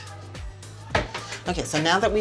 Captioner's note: clacking